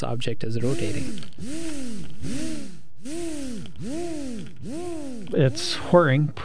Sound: whir

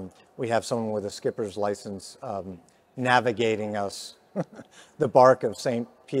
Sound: chuckles

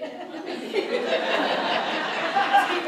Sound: audience laughs

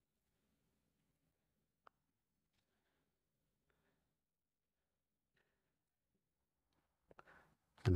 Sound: silence

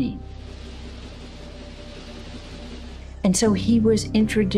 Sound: machineries rattling

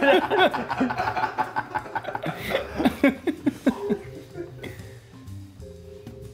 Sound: laugh; laugh

